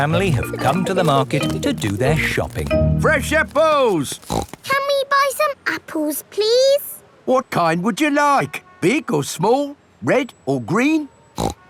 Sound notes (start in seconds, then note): 4.1 snorts